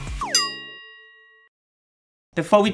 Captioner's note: ding